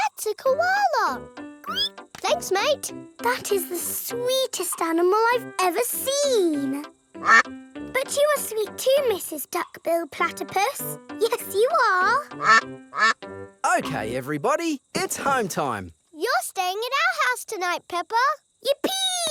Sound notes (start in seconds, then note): 1.6 squeals; 7.2 quacks; 12.9 quacking